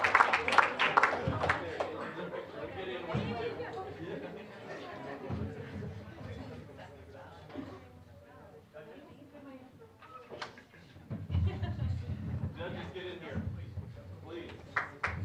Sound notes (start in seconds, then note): 0.0 applause; 0.1 general chatter